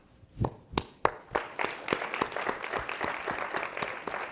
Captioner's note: audience applauds